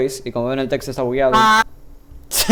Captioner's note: screams